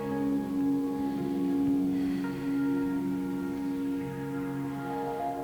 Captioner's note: exhales